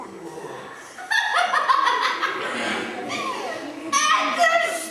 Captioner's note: laughs